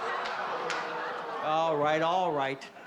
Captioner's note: audience laughing